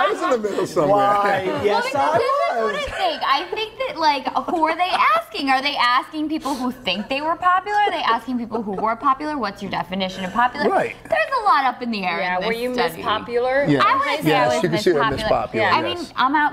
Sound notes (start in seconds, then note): 0.9 laughter